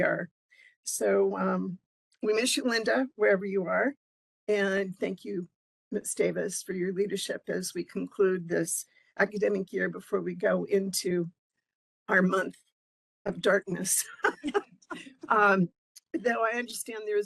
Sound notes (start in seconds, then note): 14.0 laughing